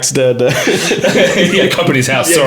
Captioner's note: laughing